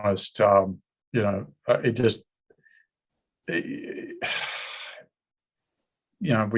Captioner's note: sighs